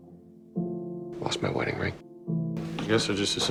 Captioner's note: voiceover